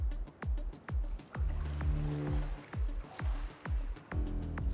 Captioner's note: water sloshing